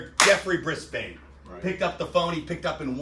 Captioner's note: claps loudly